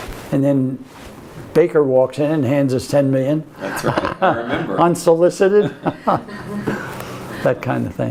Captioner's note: laughs